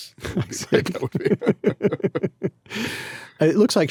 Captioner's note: laughing